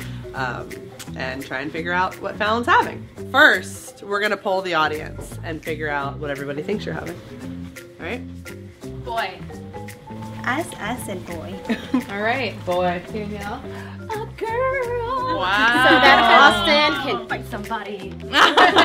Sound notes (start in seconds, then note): 11.6 laughs; 18.3 both laughing